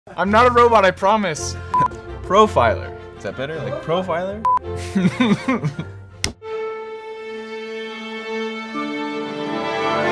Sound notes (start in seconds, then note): 4.8 laughs